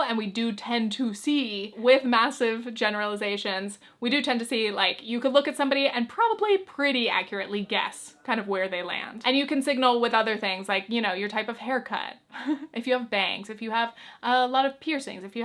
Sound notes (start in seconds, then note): 12.3 chuckles